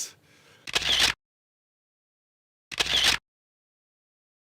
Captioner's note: camera clicking